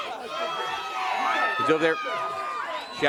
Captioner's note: crowd cheering